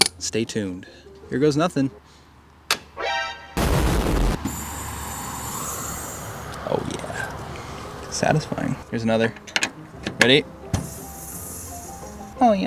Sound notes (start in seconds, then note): 2.7 tube clicking; 3.5 explosion booming; 4.3 refrigerant hissing; 10.7 refrigerant hissing